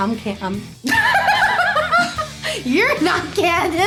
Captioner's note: laughs loudly